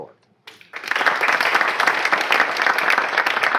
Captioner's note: applause